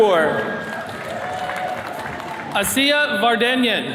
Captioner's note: attendees cheering